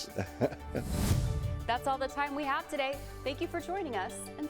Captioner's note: laughter